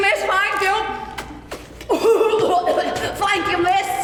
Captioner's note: coughing